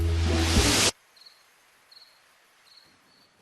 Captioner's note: crickets chirping